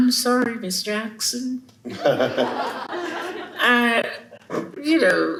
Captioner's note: chuckles